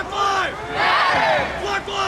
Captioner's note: crowd